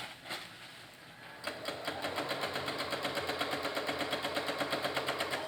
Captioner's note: sewing machine